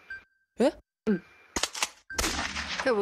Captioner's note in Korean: 고위 사제의 암살 총성